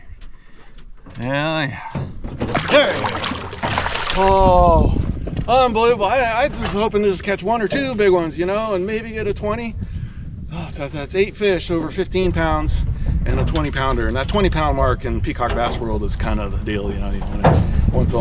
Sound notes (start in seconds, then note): 5.4 fish splashing